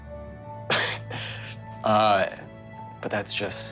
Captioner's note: soft music; laughs